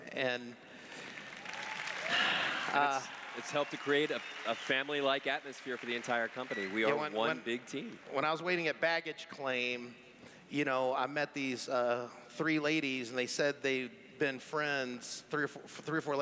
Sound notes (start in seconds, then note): 2.0 sighs; 3.0 clapping